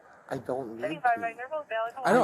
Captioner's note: radio chatter